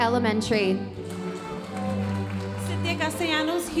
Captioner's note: audience applauding